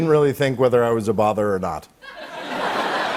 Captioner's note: laughter